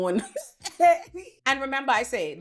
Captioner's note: laughs